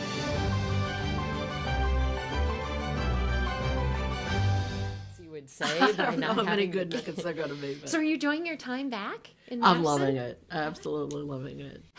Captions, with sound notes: (inspiring music) (chattering) -: So are you enjoying your time back? -: I'm loving it, absolutely loving it.